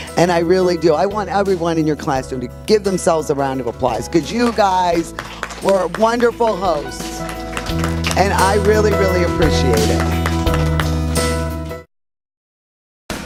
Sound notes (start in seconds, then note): 7.6 clapping